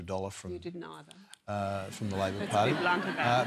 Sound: laughter

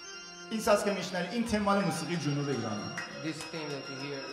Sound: speaking in farsi

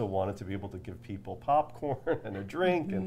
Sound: laughs

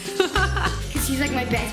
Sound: laughs

